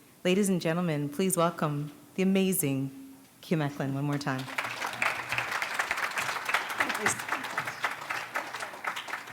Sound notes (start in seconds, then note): 6.7 applause